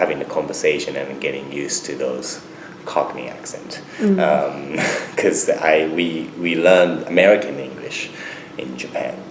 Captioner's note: laughs